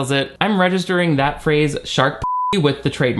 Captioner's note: beep